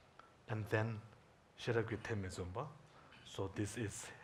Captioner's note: speaking in Tibetan